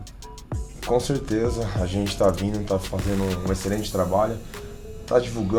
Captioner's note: speaking in Portuguese